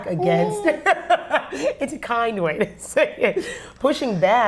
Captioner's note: laughs